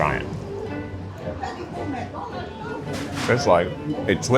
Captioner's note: gentle upbeat music; people chattering